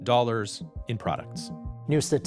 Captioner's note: soundbite of archived recording